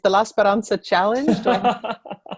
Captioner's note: laughter